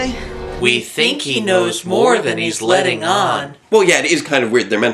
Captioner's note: stage Whisper